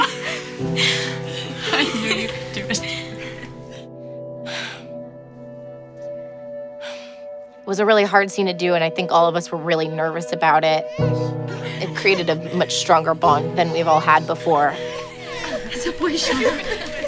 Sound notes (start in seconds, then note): 0.7 relieved laughter; 4.4 sighs